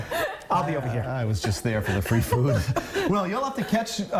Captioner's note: laughter